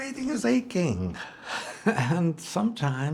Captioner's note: Florio chuckles